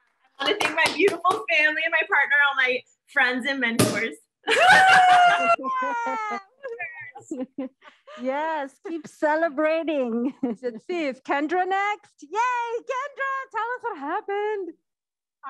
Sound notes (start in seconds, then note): 4.5 cheering